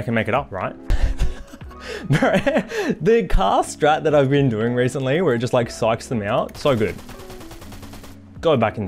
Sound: laughs

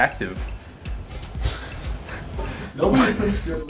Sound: laughs

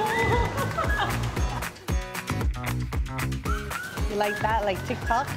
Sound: laughing

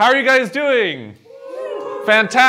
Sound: cheering

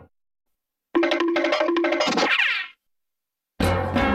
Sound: cartoon music playing; cartoon sounds; cartoon music plays

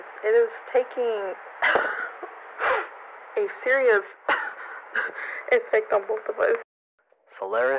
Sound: coughs; coughs harder

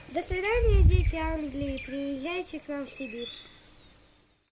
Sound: Russian

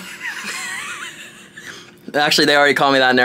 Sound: laugh

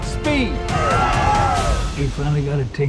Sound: people cheering and clapping

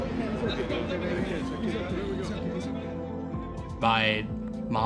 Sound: soft indistinct chatter

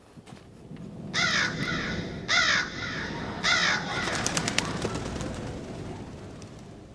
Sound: crows cawing, then flying away

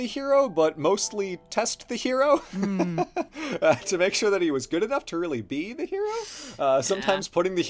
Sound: laughs

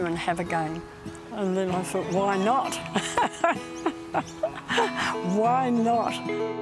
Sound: laughs

